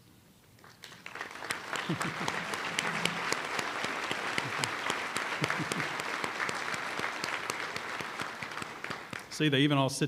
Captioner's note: applause